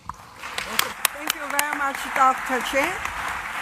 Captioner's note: applause